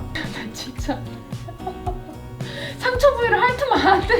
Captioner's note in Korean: 웃음